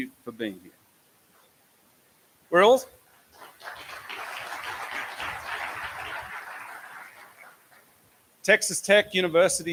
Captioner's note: applause